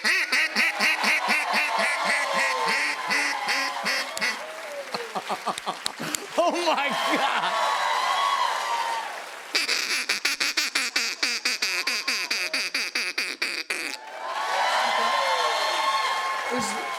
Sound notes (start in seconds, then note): 0.1 cheering, applause; 5.5 laughing; 7.3 cheering, applause; 9.5 duck call; 13.9 cheering, applause